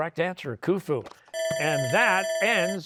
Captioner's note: bell ringing